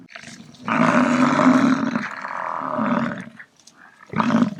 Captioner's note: buffalo grunting